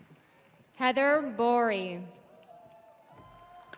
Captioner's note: audience applauding; audience cheering